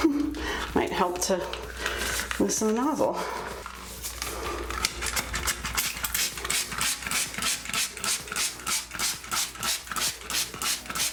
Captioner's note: laughing